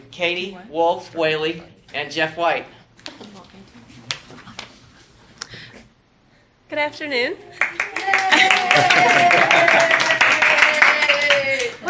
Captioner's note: applause, laughter